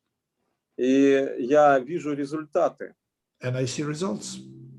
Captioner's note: speaking Russian language